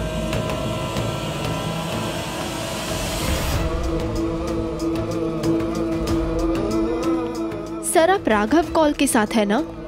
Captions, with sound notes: [vocalisation] Sir, are you with Raghav Kaul?